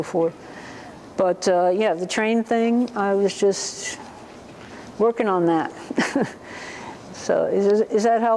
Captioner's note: laughter